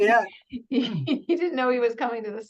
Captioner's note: laughs